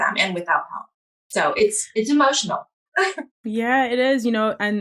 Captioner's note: chuckles